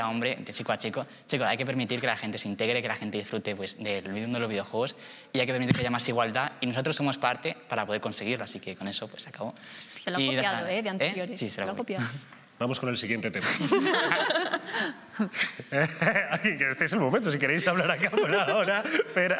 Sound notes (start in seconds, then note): 13.4 they laugh